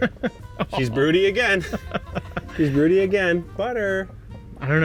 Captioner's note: laughing